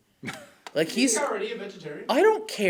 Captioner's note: laughs